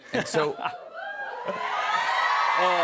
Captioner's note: cheering